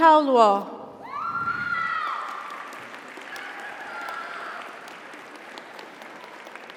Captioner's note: audience cheers; audience applauds